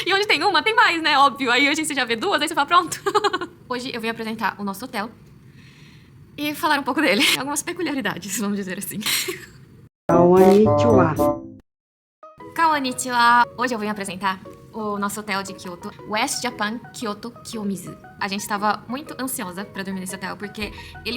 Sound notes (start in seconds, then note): 5.4 deep breath